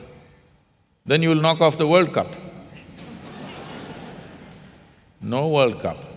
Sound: laughter

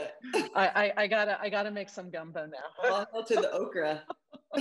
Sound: laughs

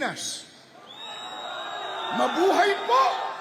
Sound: crowd chants: "Long live!"

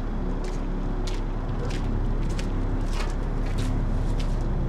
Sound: foreboding low-rumble continues

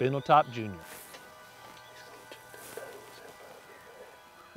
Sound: whispering

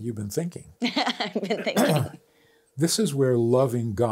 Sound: laughs

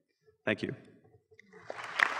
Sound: applause

